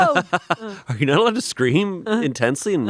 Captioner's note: laughs